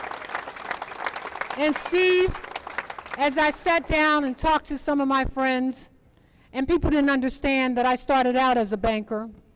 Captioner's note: applause